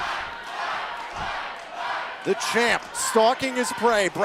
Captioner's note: crowd cheering